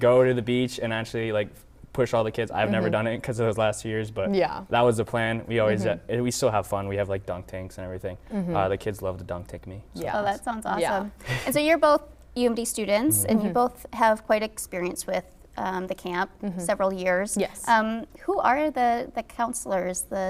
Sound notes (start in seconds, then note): 10.5 laughing